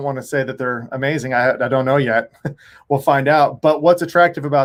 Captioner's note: chuckles